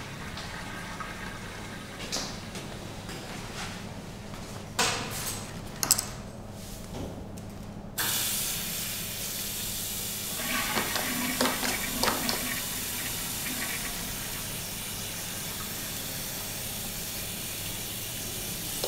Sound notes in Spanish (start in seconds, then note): 10.5 sonido cadena WC